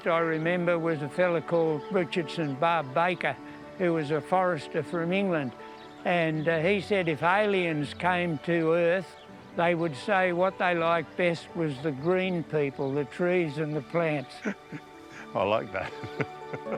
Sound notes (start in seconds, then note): 15.6 chuckles